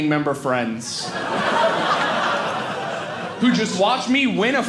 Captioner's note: audience laughing